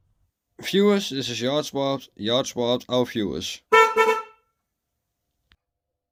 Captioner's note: horn sound